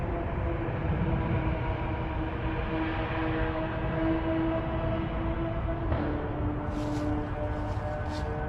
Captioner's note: motorbike noise